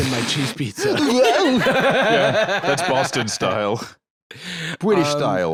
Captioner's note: laughs